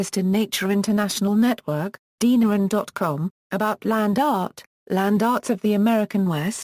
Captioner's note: German